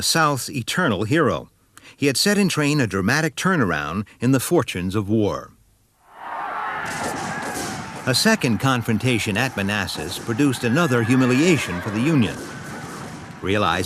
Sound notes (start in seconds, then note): 6.8 guns bang; 6.9 shouting